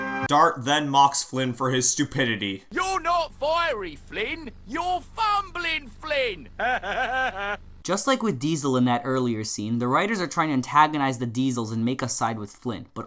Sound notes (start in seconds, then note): 6.6 laughs